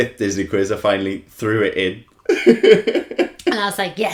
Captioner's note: laughter